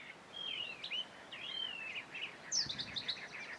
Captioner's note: birds chirping